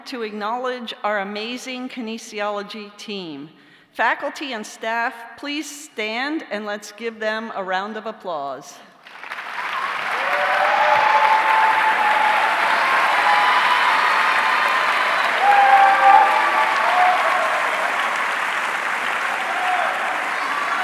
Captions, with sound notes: to acknowledge our amazing kinesiology team. Faculty, and staff, please stand and let's give them a round of applause. (audience cheering) (audience clapping)